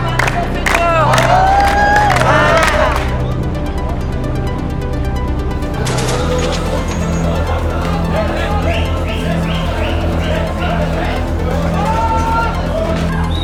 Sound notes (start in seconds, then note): 0.0 people clap; 0.0 people cheer; 5.7 people whistle; 6.9 dramatic music continues; 11.3 indistinct chattering